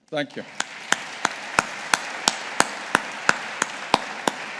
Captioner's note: audience applauding